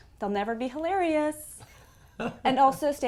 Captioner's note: laugh